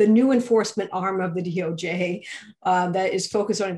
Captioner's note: laughs